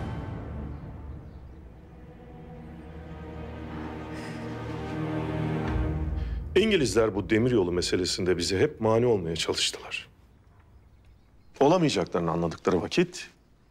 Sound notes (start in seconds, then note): 3.8 breathing sound